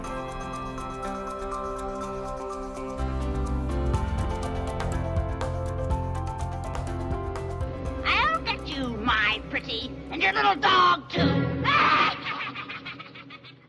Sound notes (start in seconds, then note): 0.2 upbeat music; 8.1 voiceover; 11.6 wicked laughter; 11.6 suspenseful music